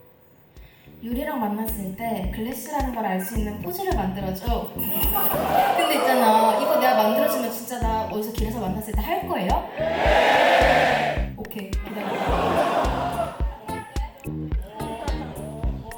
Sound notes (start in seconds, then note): 4.8 haha